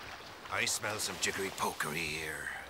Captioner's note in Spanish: none